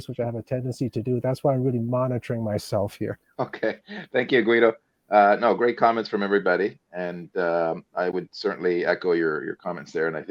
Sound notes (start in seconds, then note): 3.4 laughing